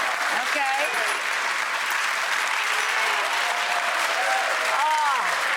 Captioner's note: audience claps